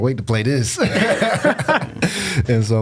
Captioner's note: laughs